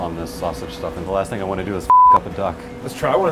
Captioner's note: beep